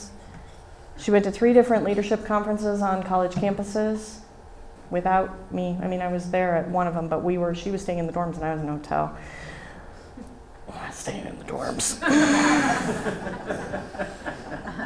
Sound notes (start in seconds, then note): 12.1 laughter from Audience